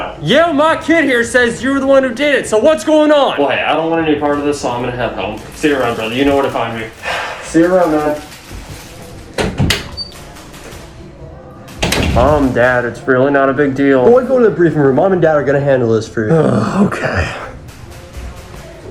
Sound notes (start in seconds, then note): 7.0 sighs; 8.9 distant yelling & airsoft gunfire; 11.7 door closes; 16.3 exhausted sigh